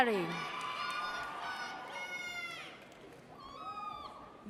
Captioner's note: audience cheers